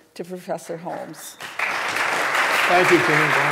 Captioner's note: applause